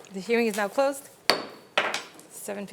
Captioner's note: gavel bangs